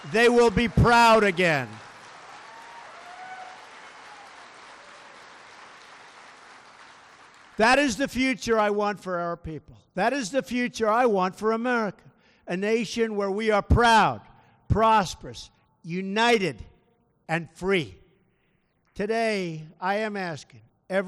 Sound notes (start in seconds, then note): 1.7 applause